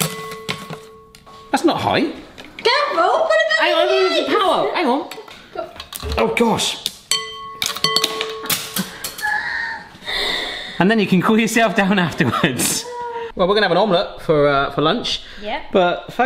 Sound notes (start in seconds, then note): 6.9 sticks banging bowl; 8.8 laughing